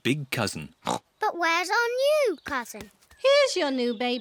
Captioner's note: oinks